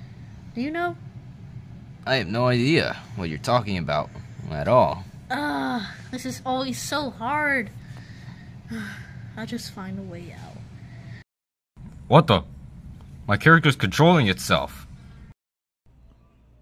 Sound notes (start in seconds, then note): 5.3 ugh; 8.6 sigh